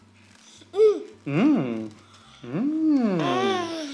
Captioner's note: babbles